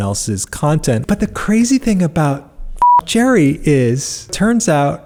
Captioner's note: beep